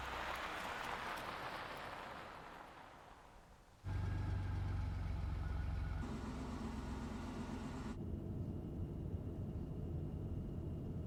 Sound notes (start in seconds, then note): 3.8 vehicle droning